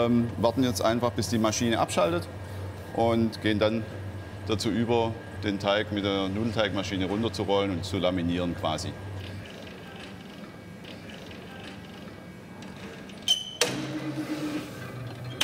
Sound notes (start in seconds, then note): 9.4 soft rattling; 12.7 squeaking, clattering, roaring